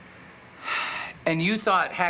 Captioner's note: sighs